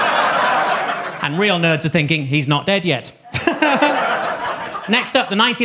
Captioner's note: audience laughs; laughs